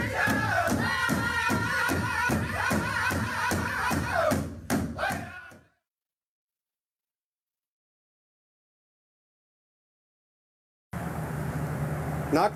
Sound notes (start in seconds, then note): 2.8 speaks a native american language